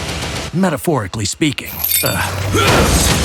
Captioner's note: groans